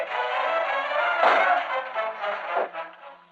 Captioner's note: clank